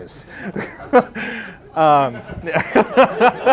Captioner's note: laughing